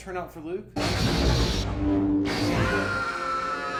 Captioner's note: lightsabers buzzing; screaming; dramatic music